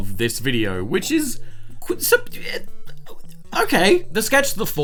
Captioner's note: stutters